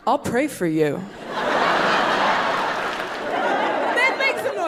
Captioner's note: audience laughing